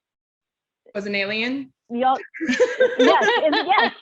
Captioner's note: chuckles